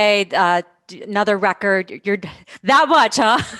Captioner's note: laughs